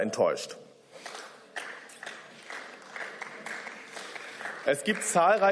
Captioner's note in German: Beifall